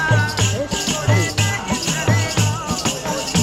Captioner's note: chanting